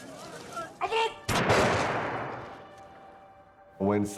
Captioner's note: gunshots blasting